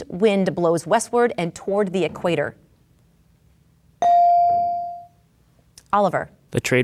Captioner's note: bell dings